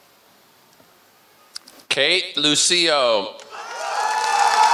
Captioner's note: applause